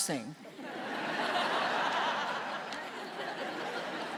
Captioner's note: audience laughing